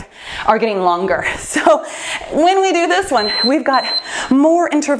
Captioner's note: timer beeps